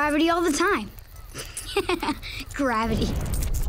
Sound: laughing

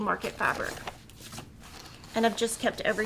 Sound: bag rustling

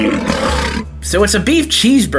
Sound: lion growling

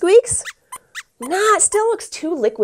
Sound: squeaks squeaks

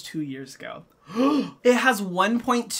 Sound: gasps

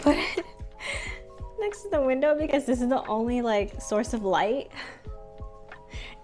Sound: laughs; laughs

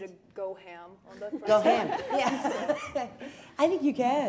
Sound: laughing

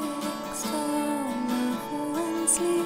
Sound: none

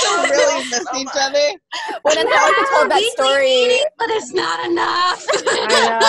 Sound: all laugh and agree

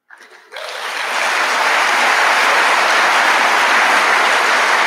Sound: audience applauding

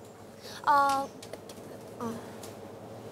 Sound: hesitant

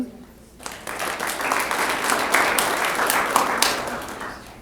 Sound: applause

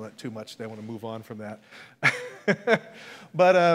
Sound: laughs

